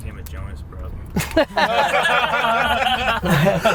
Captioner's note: laughs